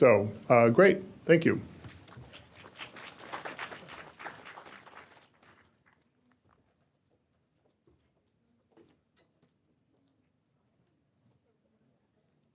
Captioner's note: applause